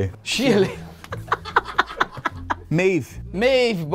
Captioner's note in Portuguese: risadas